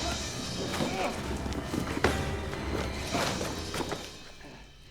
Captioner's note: Ryan grunts with effort